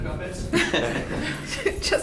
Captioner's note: people laughing